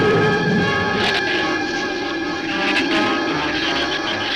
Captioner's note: shrew chatter